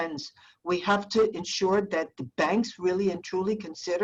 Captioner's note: Spanish